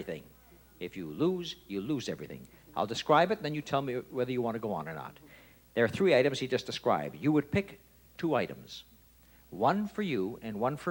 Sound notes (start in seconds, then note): none